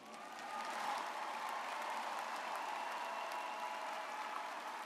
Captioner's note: audience applauds